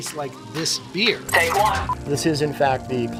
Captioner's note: audio beeps; gentle music